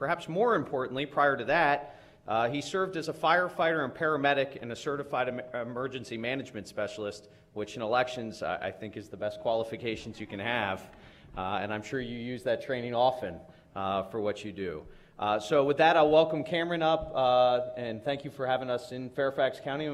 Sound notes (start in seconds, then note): 11.1 laughter